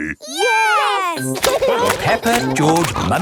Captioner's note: laughing